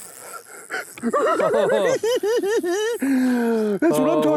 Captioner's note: giggling